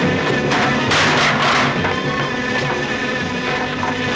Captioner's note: thudding; buzzing